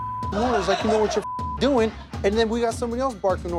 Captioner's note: beep